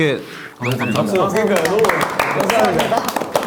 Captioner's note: applause of gratitude